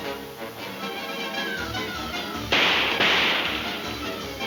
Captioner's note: guns firing